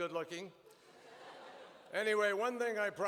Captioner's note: laughter